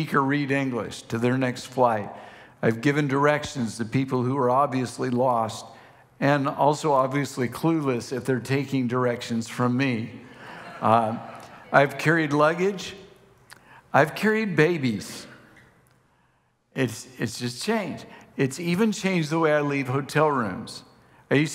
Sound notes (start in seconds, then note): 10.4 congregation laughing